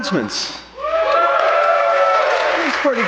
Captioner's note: audience cheering